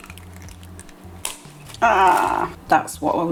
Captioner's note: pop